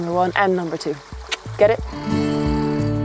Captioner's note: tongue clicking